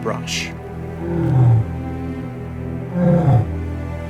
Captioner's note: growling